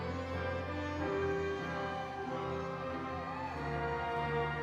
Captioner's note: audience cheering